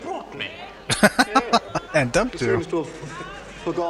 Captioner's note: laughing